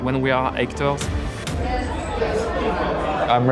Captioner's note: indistinct chatter